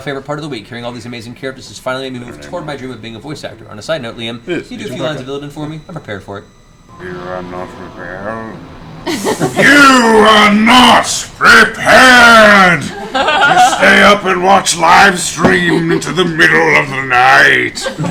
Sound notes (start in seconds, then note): 7.4 Illidan voice